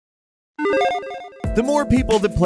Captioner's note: electronic chiming